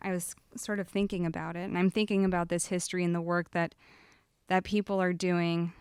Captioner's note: none